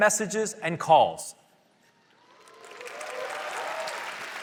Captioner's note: applause